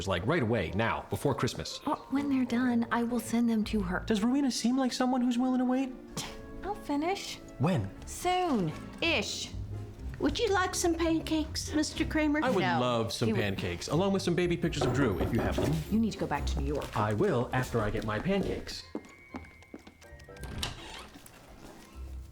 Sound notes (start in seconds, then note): 6.0 scoffs; 14.7 knocking on door; 18.6 footsteps, door opening